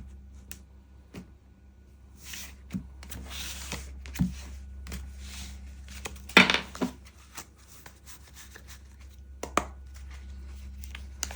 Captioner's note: shuffling cards